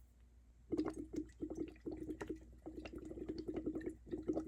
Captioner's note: water gurgling